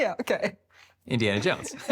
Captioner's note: laughs